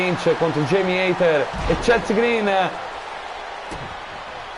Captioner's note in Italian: Applauso